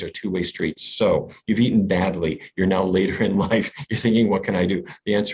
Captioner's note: laughs